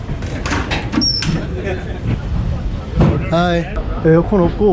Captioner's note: they laugh